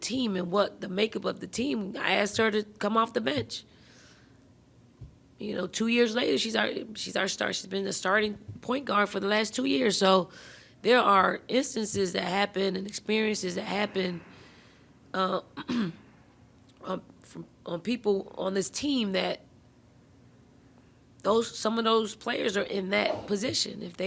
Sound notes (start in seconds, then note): 15.6 clearing throat